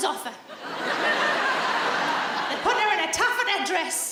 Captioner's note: audience laughs